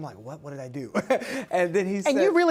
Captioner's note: laughs